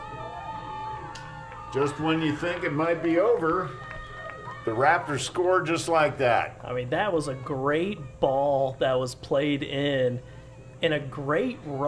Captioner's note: cheering